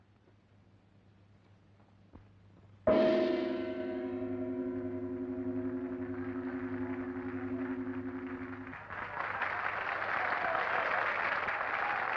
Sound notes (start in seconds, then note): 2.9 dramatic music; 5.7 applause and cheering